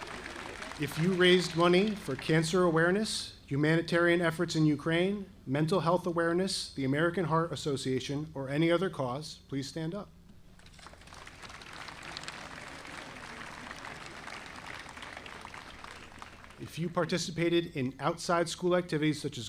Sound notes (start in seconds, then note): 10.6 audience applauding